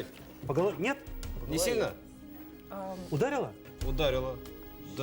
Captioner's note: people speaking in Russian